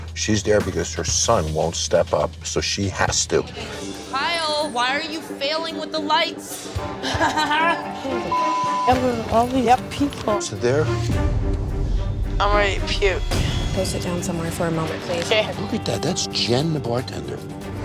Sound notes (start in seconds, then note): 7.0 laughs